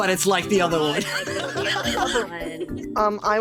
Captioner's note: laughing